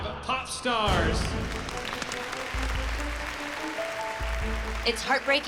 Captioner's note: applause